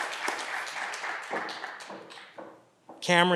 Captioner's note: footsteps receding